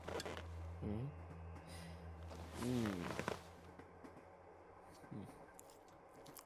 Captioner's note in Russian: звуки подозрения